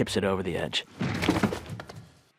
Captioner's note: thuds